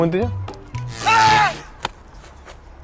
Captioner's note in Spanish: Gritos